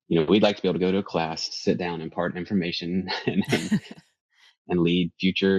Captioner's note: laughs